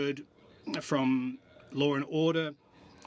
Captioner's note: speaking French